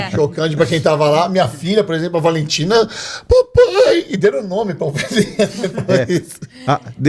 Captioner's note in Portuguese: risadas